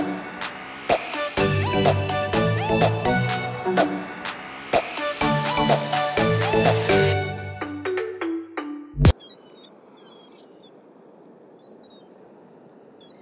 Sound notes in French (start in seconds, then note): 9.1 Bruits de mouettes